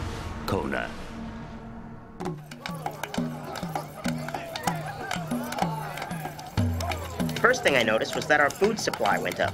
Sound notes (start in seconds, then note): 2.6 tribal dancing music; 4.5 people cheering